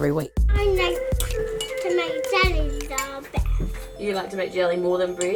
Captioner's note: child babbling